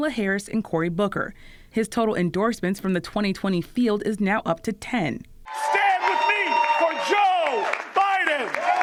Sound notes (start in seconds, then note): 5.4 cheering and applause